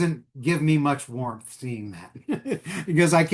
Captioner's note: chuckles